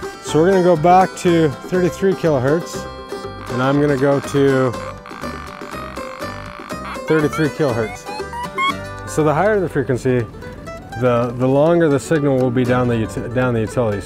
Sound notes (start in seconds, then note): 4.9 machine buzzes; 4.9 upbeat music